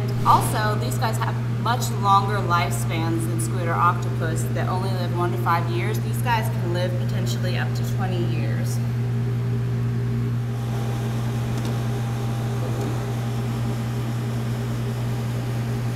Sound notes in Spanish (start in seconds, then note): 10.4 Sonido de la bomba de agua del acuario